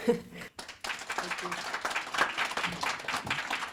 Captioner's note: applause